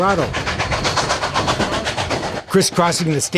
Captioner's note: train chugging